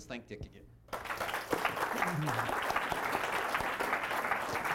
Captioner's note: applause